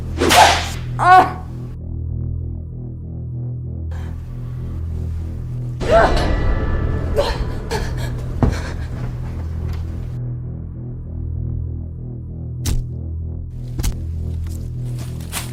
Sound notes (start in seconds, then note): 0.1 whipping slap; 7.5 Michelle gasps; 13.6 kicking impacts